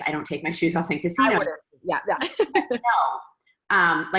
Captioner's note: laughs